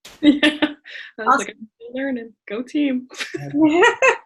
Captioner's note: murmurs and laughs